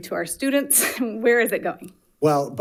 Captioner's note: giggles